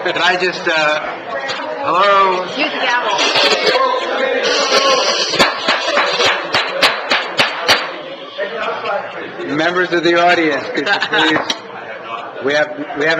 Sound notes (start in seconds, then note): 6.3 gavel bangs